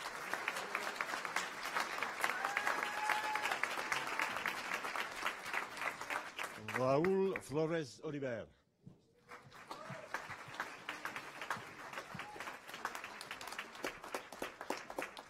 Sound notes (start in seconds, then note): 3.0 applause